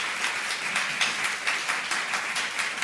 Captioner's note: applause